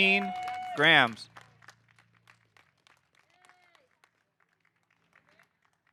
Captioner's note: audience applauding